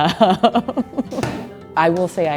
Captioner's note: punching